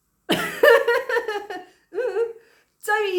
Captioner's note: laughing